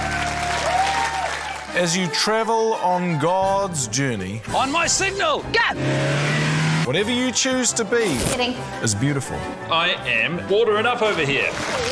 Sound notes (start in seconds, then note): 0.0 cheering, applause; 4.8 engine revs